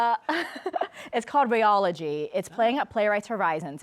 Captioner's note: laughs